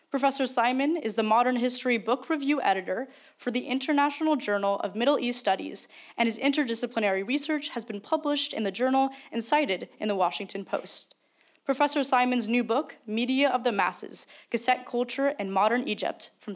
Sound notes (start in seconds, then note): none